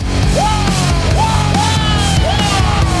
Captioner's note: yells